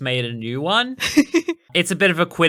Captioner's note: laughing